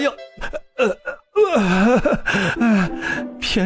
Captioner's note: groans